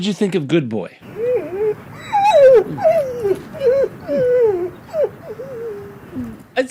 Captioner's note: whimpering